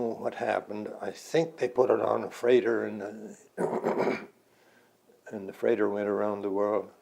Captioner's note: clears throat